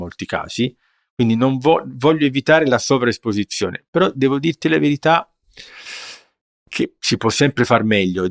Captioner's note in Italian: sbuffare